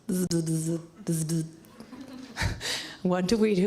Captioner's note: laughs